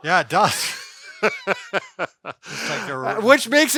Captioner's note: both laughing